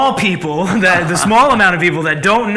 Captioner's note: laughs